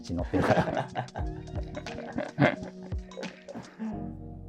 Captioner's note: laughing